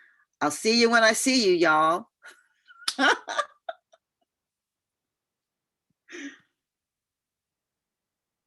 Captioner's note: laughter